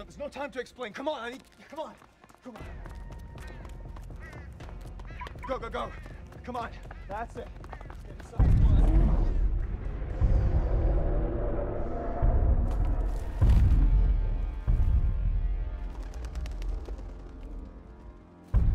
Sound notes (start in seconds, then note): 8.2 dinosaur growls; 13.4 eerie music